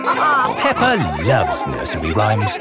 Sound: all laughing

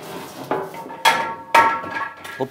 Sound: metallic clanking

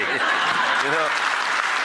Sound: applause

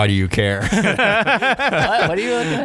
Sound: laughter

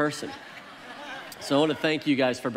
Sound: congregation laughs

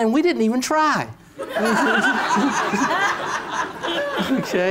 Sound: laughter

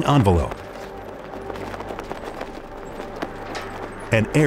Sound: balloon flapping

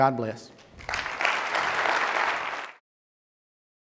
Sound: applause

